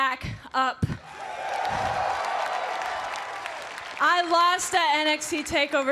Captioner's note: cheers and applause